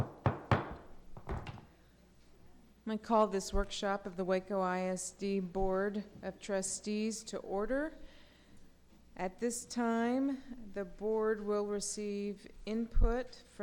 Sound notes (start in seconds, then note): 0.0 knocking